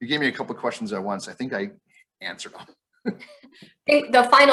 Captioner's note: chuckles